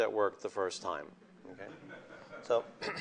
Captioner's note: laughter